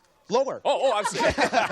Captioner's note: chuckles